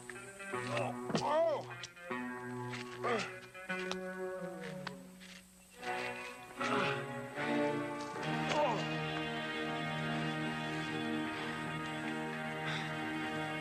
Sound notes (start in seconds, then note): 1.1 Dan grunting; 1.1 dramatic music